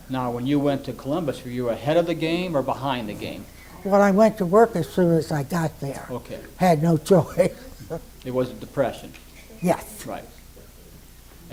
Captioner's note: laughs